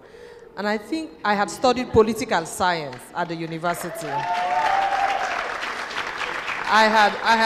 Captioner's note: cheers and applause